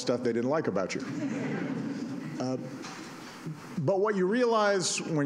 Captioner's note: laughter